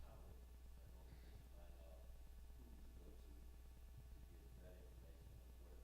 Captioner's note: male audience member speaking